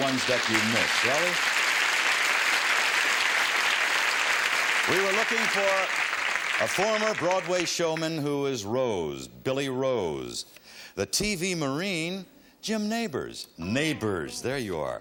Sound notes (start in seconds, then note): 3.9 audience applause